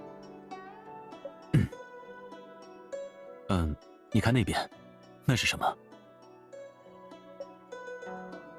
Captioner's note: ahem